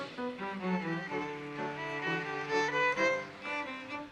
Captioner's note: audience applauses